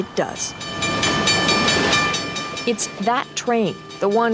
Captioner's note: train bell tolls